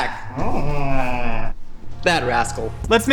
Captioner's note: Glerbglorp grunting